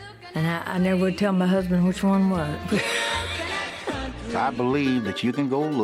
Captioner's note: laughs